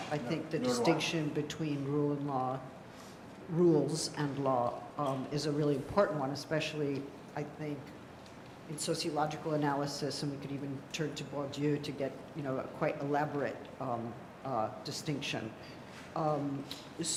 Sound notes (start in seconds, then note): 11.4 french